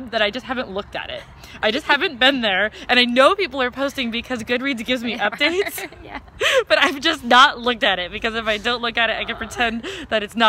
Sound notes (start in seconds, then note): 5.1 laughs